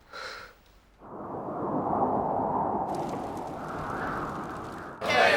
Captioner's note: wind whistling